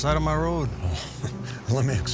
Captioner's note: laughter